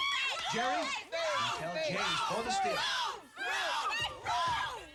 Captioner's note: chanting